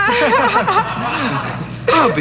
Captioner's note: laughter